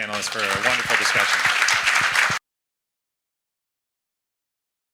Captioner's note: audience applauds